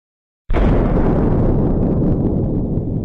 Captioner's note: distant explosion